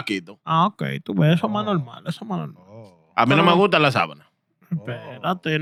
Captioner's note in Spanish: Hablando en idioma extranjero